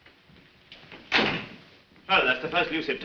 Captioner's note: door close